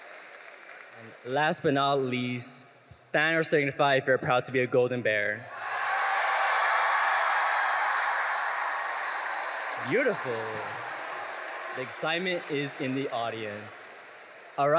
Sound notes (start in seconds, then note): 5.4 audience cheering